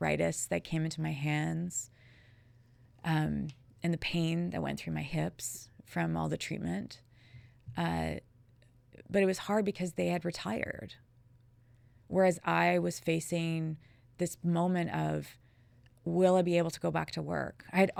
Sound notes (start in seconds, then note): none